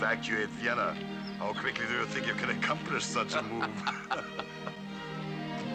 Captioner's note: laughing